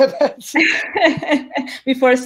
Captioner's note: laughs